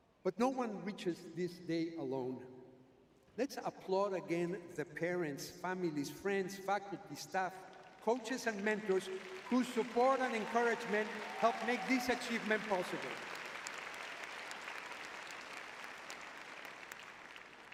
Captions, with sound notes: But no one reaches this day alone. Let's applaud again the parents, families, friends, faculty, staff, coaches and mentors [audience cheering] whose support and encouragement helped make this achievement possible. [audience applauding]